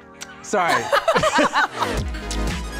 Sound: laughs

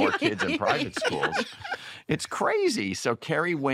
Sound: laughter

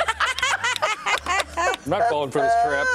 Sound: laughter

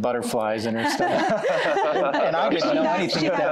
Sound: laughter

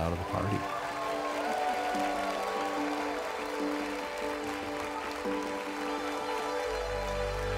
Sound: cheering

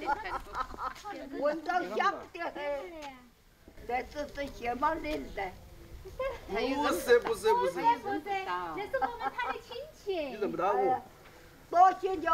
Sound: they chat

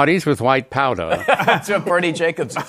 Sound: laughter

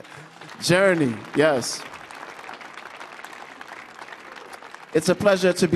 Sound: audience clapping

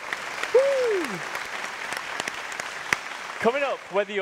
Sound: applause continues; audience applauds

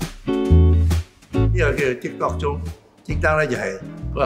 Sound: Cantonese

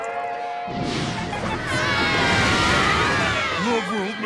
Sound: chattering

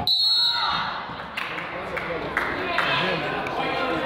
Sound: whistle blows

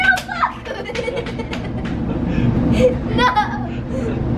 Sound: laughter

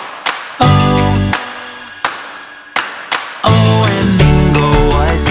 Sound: claps four times

